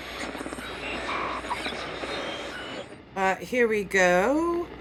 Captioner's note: static